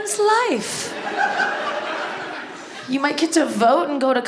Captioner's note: audience laughs